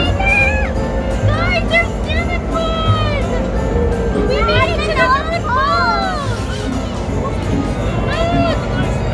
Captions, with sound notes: - There's your Santa Claus. (children scream together)